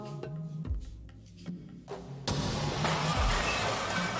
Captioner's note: glass shattering